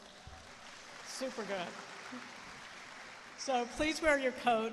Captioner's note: applause